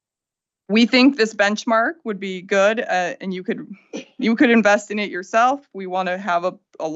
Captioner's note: laughter